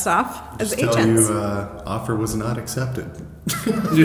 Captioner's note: laughs